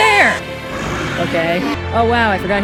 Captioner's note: inspirational Music; roar